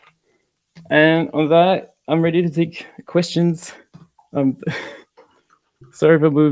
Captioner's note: laughing